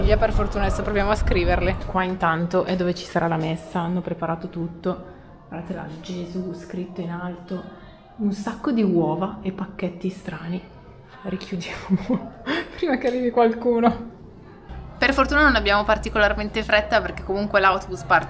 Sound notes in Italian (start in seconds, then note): 11.7 risate